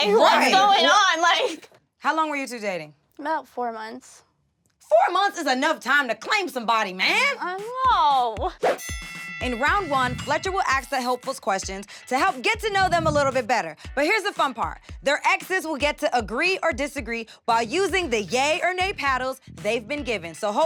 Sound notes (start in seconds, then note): 7.9 laughing; 8.8 bell rings